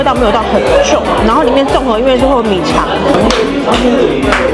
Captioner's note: slip